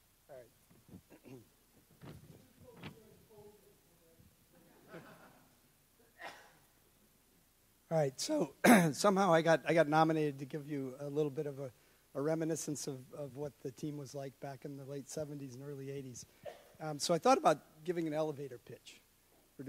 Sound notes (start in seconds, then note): 2.4 man in audience speaks off the mic